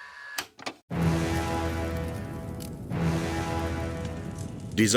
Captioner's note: dramatic music; fire crackling